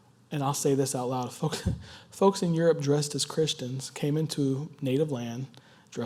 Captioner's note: laugh